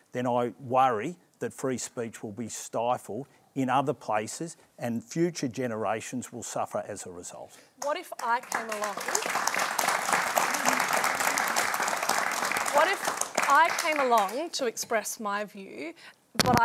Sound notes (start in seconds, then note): 11.5 applause